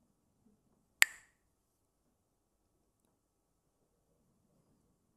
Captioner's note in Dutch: klakt met stokjes